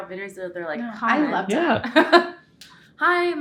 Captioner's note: laughs